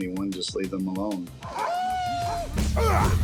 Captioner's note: shouting